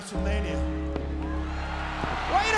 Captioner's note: bell tolling; crowd cheering